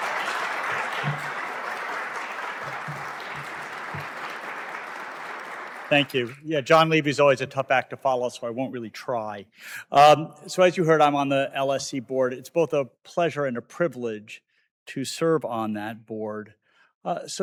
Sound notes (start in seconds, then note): 1.7 applause